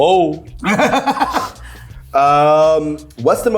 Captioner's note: laughing